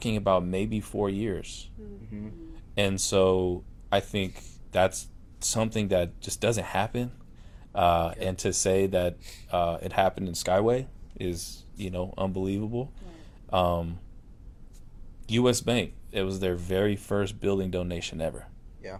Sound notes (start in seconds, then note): 1.8 sounds of agreement